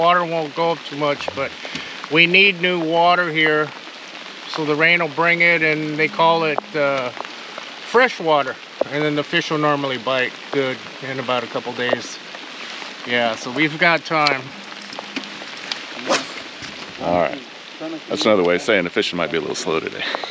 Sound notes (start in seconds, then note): 16.0 rod whipping